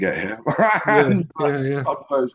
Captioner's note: laughs